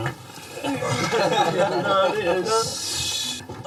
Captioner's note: laughing